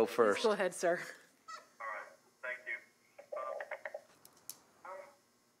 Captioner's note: via phone